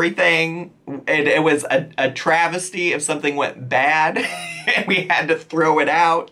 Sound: laughs

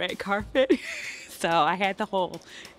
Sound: laughing

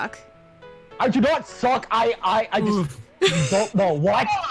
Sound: In Kcalb's voice

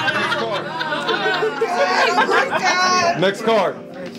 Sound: laughter

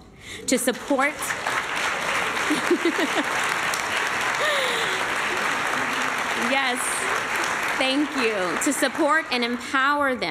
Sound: applause; laughter

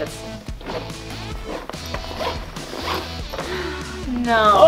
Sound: zipper zips

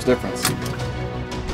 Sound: seat belt click

